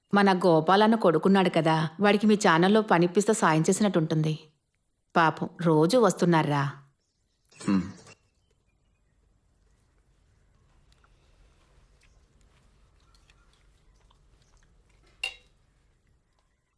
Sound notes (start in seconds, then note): 15.0 spatula clacks